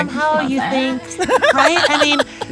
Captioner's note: laughs